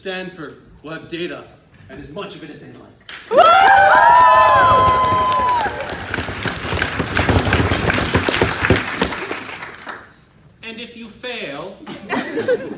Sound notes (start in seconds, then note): 3.2 cheers